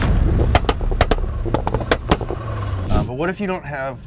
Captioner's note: car exhaust popping